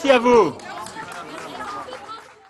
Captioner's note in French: Applaudissements